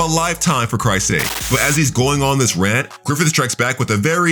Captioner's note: TV static running